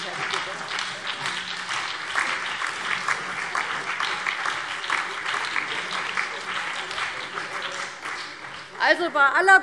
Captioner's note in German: Beifall CDU, BÜNDNIS 90/DIE GRÜNEN und DIE LINKE